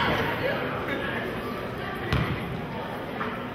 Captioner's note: chattering